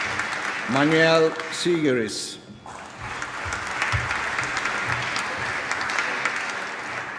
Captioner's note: applause